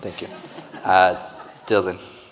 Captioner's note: audience laughing